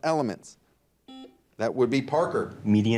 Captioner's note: buzzer dings